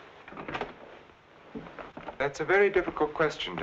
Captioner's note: door rattling